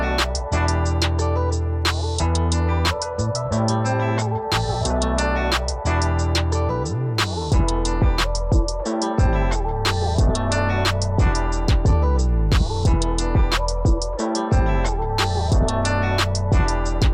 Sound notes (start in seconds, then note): none